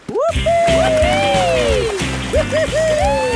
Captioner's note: both whooping